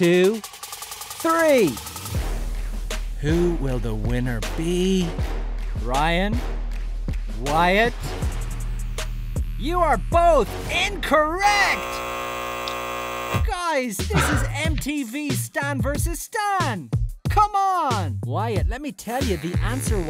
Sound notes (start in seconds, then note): 11.4 buzzer buzzes